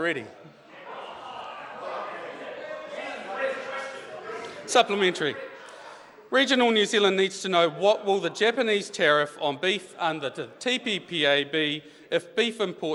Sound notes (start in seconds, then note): 1.8 members talk loudly